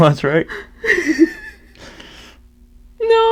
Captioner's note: unsteady breaths; breathes